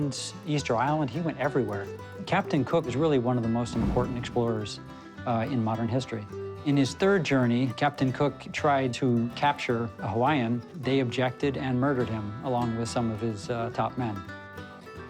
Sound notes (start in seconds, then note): none